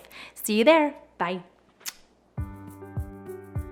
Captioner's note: kissing sound; light music